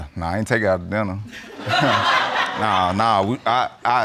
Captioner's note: audience laughing